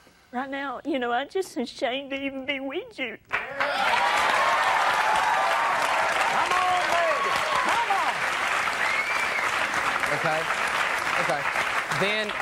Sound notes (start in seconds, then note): 3.5 audience cheering